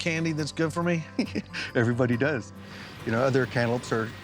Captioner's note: chuckling